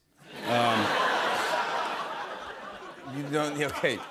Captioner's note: laughter